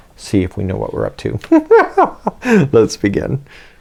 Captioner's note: big giggle